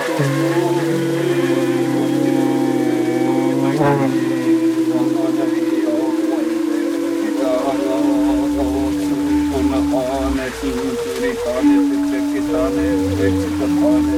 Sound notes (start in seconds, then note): 3.0 wooden flute; 7.2 chanting; 10.4 bull roarer